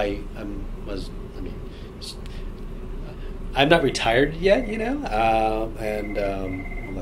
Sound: phone rings

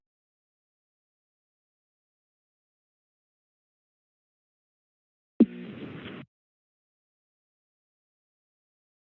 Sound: silence

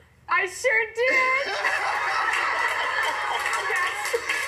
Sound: laughter

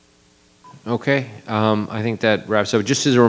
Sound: microphone beeping

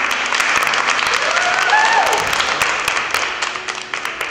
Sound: clapping

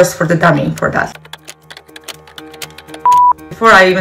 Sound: keyboard clacking

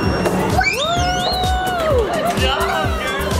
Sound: cheering

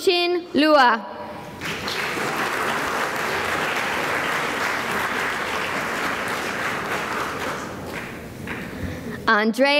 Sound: applause

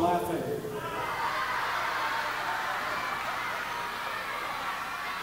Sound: audience laughing

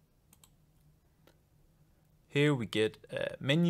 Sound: mouse clicks

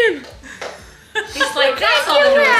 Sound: laughing

